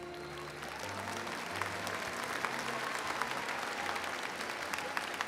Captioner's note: audience applauding and cheering